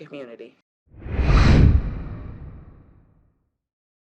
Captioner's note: air whooshing